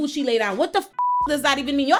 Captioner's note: beep